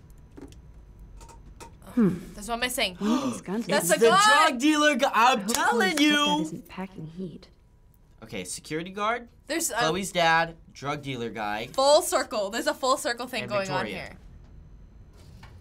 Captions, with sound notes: - There's one missing! - (gasps) - That's the gun! - It's the drug dealer! I'm telling you! Okay, security guard, Chloe's dad, drug dealer guy... - Full circle, there's a full circle thing going on here. - ...and Victoria.